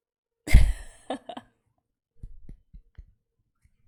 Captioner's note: laughs